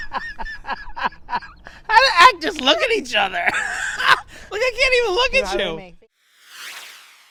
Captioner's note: laughing